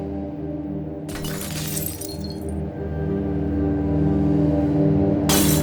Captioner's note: glass shattering